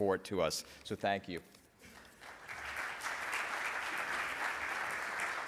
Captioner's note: audience applauds